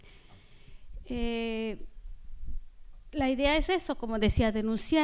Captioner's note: speaking spanish